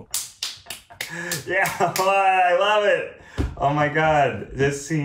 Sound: claps

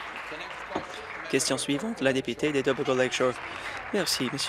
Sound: applause

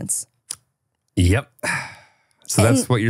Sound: sighs

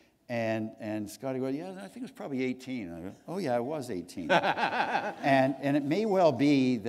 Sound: laughter

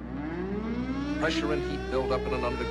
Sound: siren

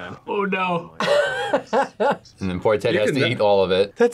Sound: laughs

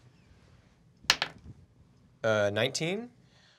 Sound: die clacks

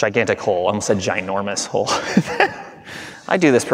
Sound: laughing

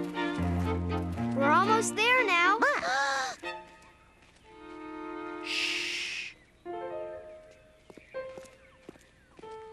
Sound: gasping

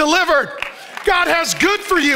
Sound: congregation claps

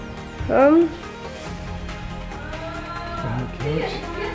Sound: all mumbling

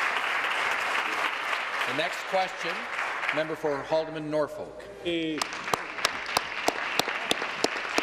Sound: applause

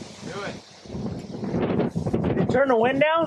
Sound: wind rumbles

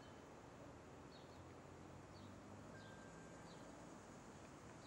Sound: traffic whirs

